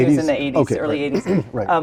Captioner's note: cough